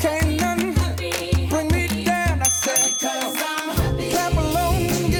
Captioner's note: ding ding!